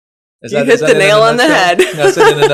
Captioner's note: laughs